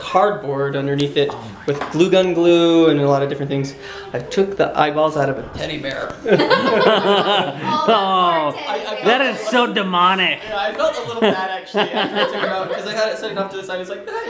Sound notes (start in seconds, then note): 6.2 laughing